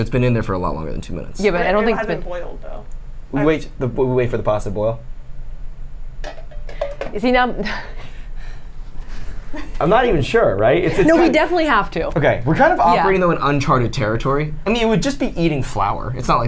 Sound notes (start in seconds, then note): 6.3 pot lid clangs; 9.1 laughs